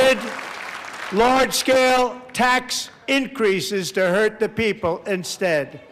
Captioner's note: applause